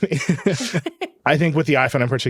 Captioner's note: laughing